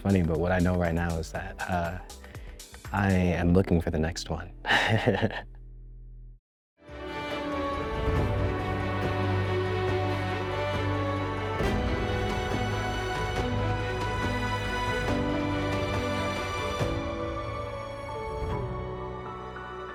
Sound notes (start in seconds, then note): 4.6 chuckles; 7.2 dramatic music